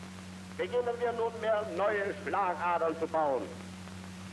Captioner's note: speaking German